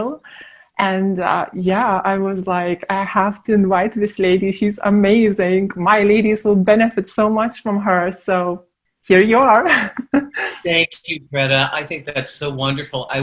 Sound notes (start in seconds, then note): 9.8 laughs